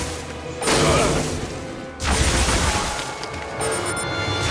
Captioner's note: blasts echoing